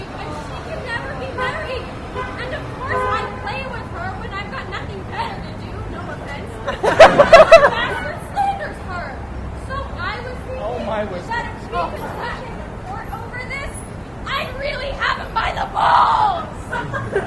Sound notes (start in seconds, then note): 6.6 laughter